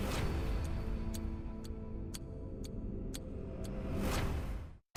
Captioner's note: clock ticking; light music